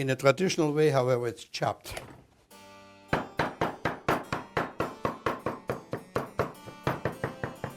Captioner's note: chopping sounds